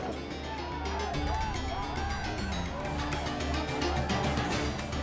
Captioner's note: villagers shouting